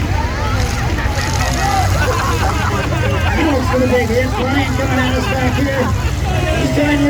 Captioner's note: crowd laughs